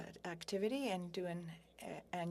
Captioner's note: speaking French